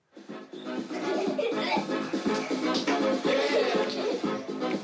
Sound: upbeat dance music plays; giggles

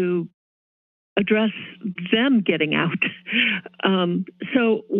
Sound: chuckles

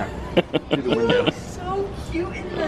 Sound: laughing

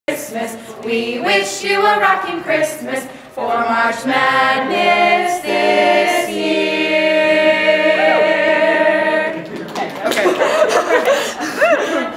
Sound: applause

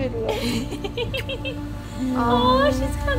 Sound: giggles

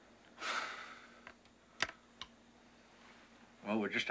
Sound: Parker sighs

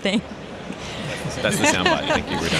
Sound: laughter

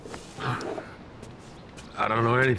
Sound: groans

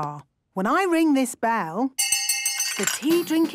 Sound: hand bell ringing; tea cups clinking

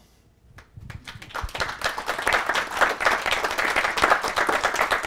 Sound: class applauds

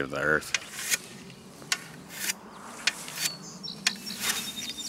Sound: scraping

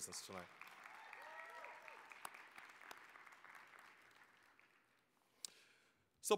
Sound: applause, cheering

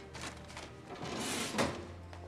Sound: drawer closes

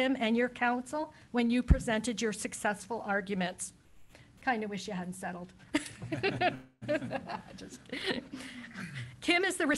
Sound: laughs

